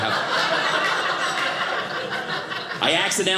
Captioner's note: audience laughing